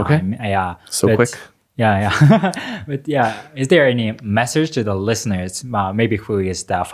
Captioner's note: laughs